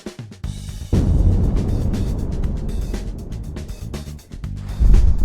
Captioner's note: explosion booming